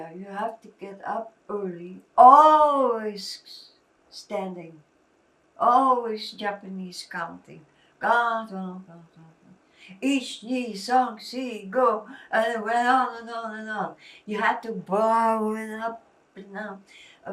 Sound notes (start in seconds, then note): 7.8 japanese